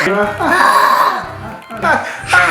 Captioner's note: Googoo Gaga sighing; laughter